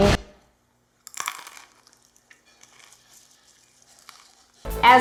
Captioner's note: chewing popcorn